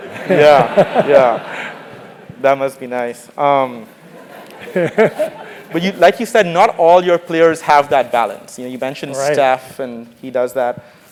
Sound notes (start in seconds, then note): 4.0 laugh